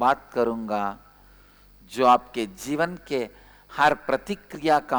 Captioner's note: hindi